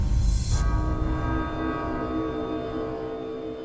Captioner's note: large bells tolling